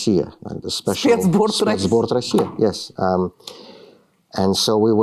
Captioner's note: speaking russian